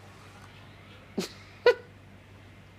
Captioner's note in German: Lachen